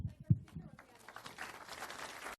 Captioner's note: applause